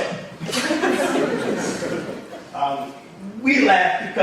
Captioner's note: audience laughs